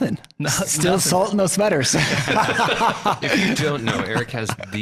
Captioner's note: laughing